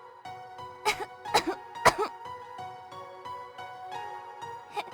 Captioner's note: cough